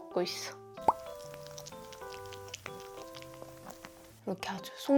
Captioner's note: nacho snacking ASMR